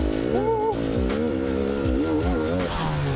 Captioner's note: whimpering